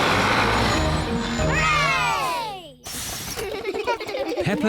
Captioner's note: all cheer